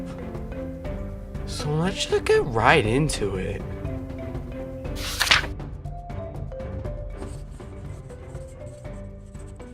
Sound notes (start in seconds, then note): 4.9 page flips; 7.6 scribbles on parchment